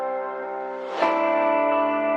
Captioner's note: air whooshing